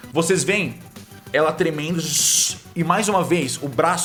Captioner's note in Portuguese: Tshhh